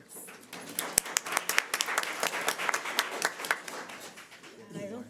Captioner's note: audience applauds